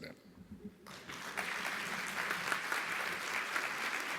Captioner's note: audience applauding